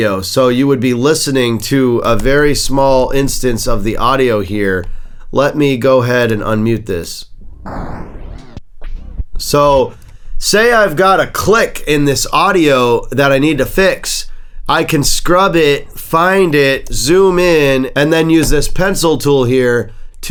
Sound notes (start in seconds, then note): 7.2 audio scratching sound